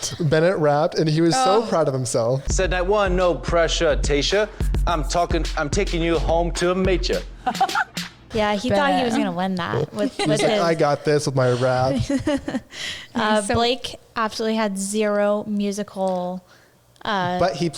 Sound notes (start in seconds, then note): 7.4 Tayshia laughing; 11.3 laughs